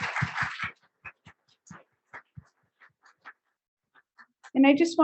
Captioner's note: audience applauding